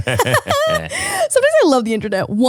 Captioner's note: both laugh